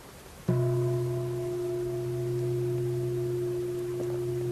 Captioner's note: bell ringing